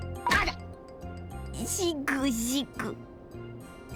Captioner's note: sob sob